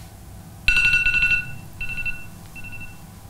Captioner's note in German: Timer klingelt